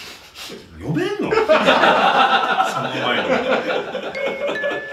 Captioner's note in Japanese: 苦笑